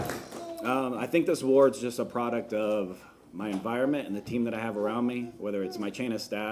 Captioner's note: applause